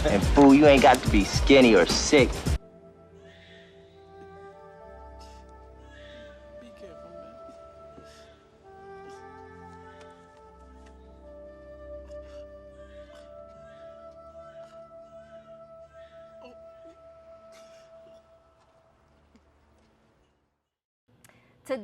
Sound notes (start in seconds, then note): 2.9 somber orchestral music; 6.1 baby crying in background; 7.9 crying; 10.1 baby crying; 12.7 somber orchestral music; 18.3 crying